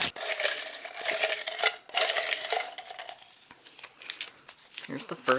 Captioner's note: paper rip; paper crinkling//shuffling